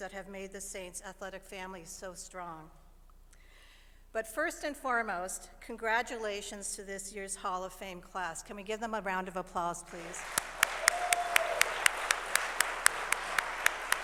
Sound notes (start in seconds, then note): 12.4 applause